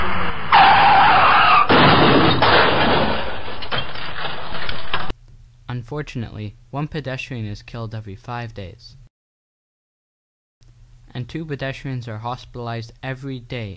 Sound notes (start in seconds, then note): 0.0 car crashing